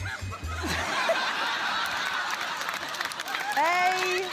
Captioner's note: laughter